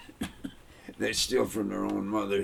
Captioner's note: coughing